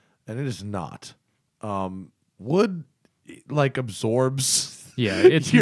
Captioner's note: laughter